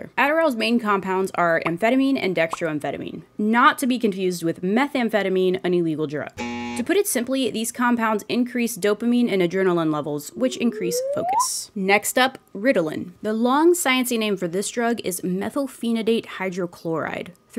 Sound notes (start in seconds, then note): 6.4 buzz